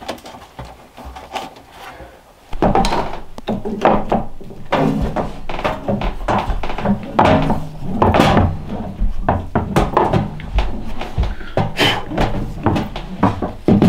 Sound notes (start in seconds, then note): 2.6 pipe rattling; 11.3 blows